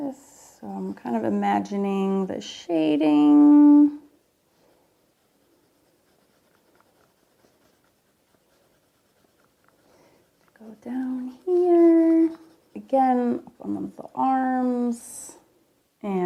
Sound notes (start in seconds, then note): 6.3 pencil scratching